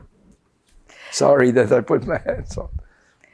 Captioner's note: laughing